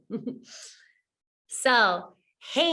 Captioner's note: woman giggling